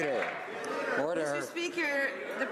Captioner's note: some Applause